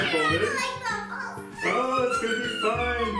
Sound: screams

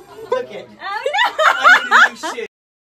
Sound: laughs

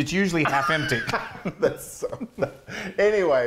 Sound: both laughing

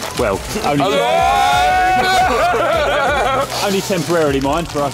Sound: cheering enthusiastically

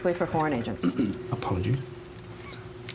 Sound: steve clears throat

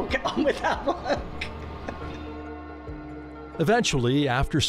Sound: laughing

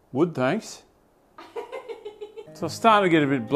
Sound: laughs

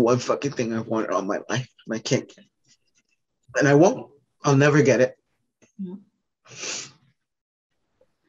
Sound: sniff

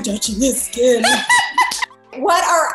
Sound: Jodie laughs

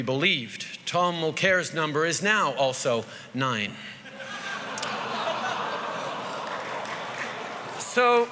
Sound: laughter & groans

